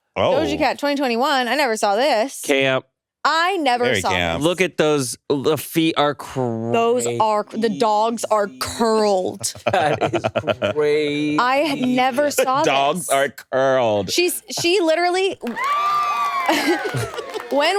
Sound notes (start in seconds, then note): 9.3 laughs; 15.3 audience applauds